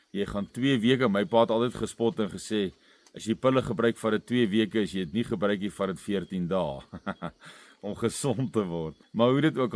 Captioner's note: chuckles